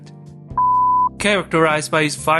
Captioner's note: beep